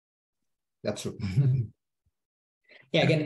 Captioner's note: giggles